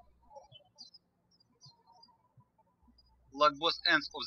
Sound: birds chirping

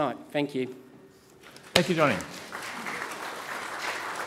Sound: audience clapping

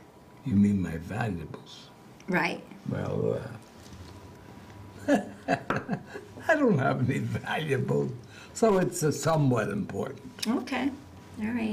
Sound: he chuckles

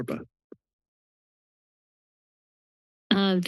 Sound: silence

